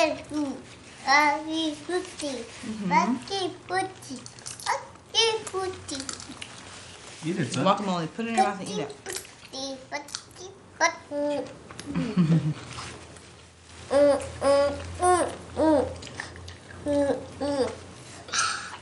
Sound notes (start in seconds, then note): 0.1 child babbling; 8.6 child babbling; 11.9 laughs